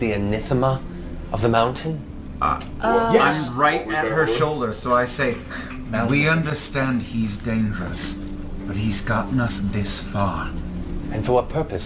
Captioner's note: laughs